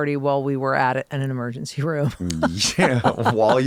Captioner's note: laughs